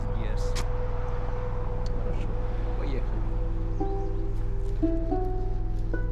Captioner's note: Viktor speaks Russian